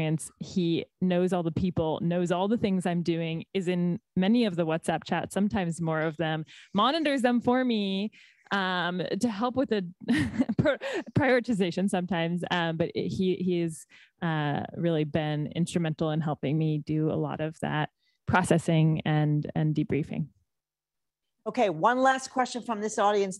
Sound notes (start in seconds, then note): 10.1 laughs